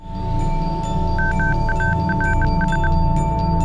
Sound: morse code

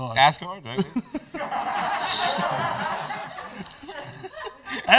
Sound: laughter

